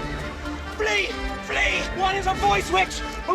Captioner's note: laughs